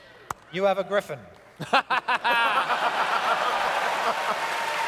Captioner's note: laughter; audience cheers